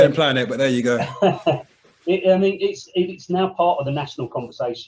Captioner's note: laughing